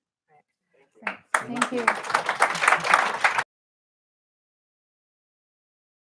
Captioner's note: applause